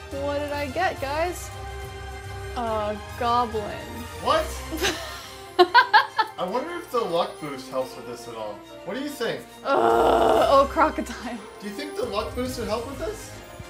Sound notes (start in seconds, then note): 4.8 laughs; 9.6 groans